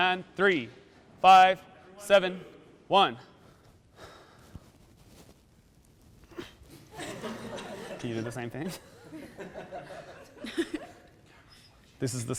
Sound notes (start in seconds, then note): 6.8 people laughing in the background